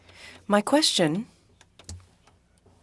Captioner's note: speaking French